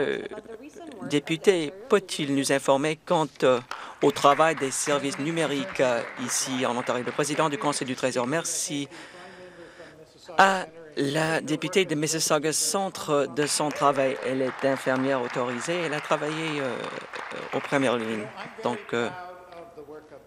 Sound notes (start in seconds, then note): 6.5 some Applause; 17.9 some Applause